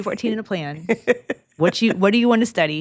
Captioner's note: laughs